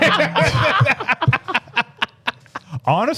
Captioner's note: laughing